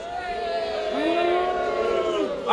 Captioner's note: audience cheering